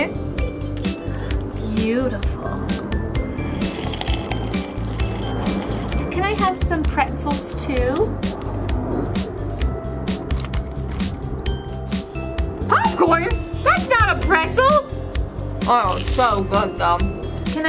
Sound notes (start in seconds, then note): 3.4 slurps tea; 8.4 light upbeat music playing